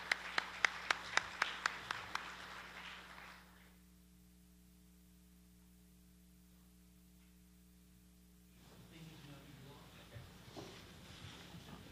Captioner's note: appluase